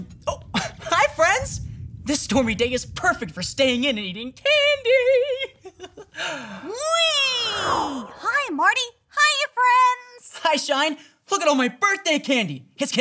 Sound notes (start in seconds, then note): 4.5 Marty laughing